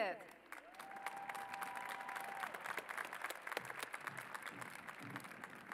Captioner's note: cheers and applause